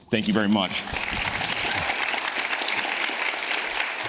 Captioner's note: audience applauds